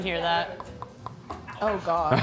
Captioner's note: teeth chattering